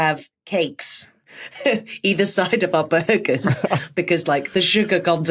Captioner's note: laughs